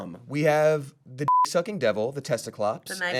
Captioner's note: beep